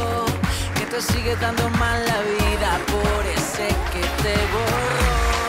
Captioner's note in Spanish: Aplausos